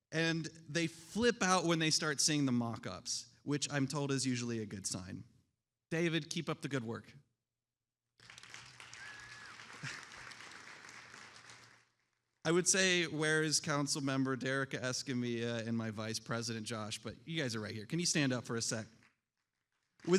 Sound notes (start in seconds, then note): 8.2 attendees applauding